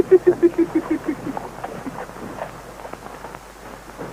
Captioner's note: laughing